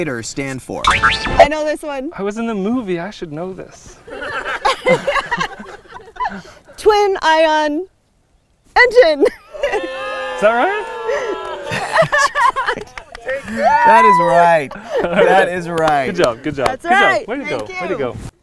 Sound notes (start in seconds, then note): 4.0 crowd laughing; 9.6 crowd cheering